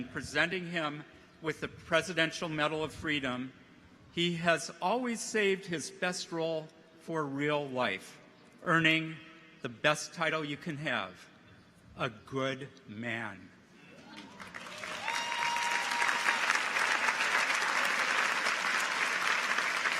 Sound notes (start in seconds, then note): 13.9 people cheer; 14.0 audience applauds